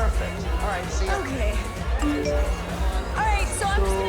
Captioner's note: phone chimes